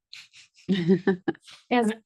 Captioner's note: board member laughs